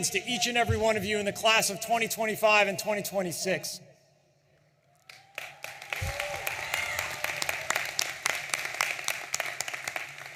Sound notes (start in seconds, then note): 4.9 audience cheering and applauding